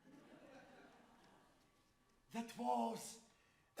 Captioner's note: audience laughs